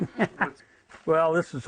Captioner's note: laughter